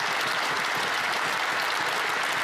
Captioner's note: applause